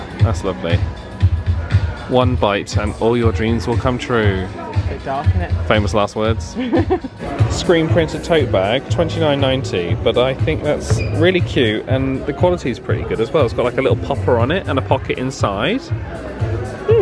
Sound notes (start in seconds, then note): 6.5 chuckles